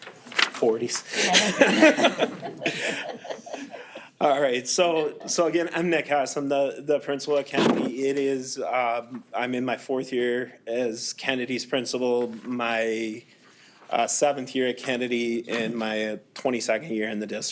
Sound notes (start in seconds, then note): 1.0 group laughing